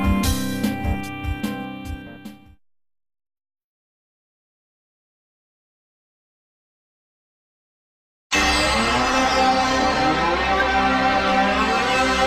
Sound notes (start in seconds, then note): 3.4 silence; 8.4 64-bit video game music